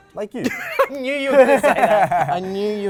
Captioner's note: laughs